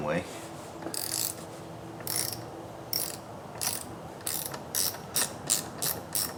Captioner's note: ratchet wrench clicking